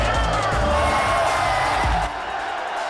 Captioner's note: shouting